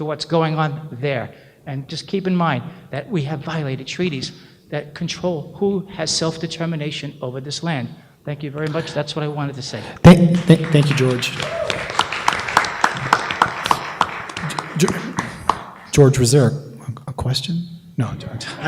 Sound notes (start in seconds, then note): 10.0 applause